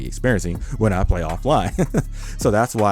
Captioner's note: laughs